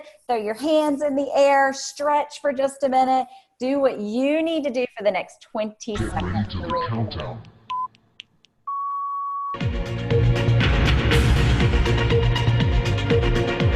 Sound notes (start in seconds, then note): 7.6 timer beeps; 8.1 upbeat techno music